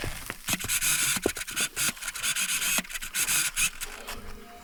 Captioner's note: camera buzzing; soft music